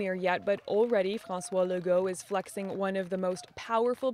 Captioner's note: applause